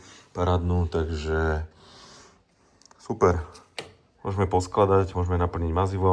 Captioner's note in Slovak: smrkanie